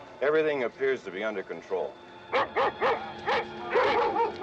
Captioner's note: barking